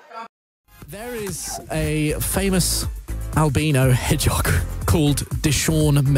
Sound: laughs

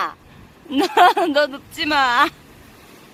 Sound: laughter

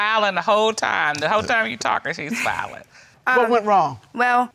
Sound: laughs

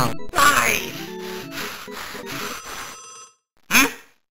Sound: angry Breathing

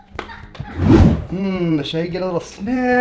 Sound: laughs; air whooshing

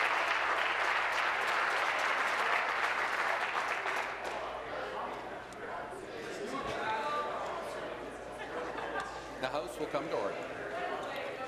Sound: applause

